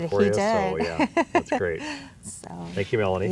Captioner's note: laughs